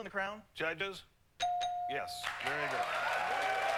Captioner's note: ding ding